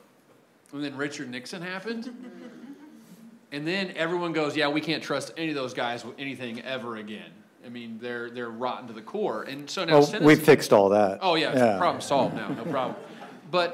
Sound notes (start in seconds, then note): 2.1 audience laughs